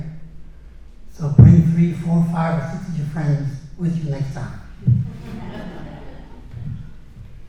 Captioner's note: laughter